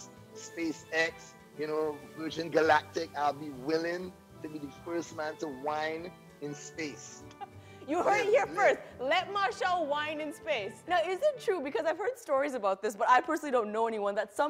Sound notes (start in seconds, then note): 7.3 laughs